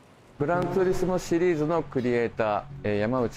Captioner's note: speaking japanese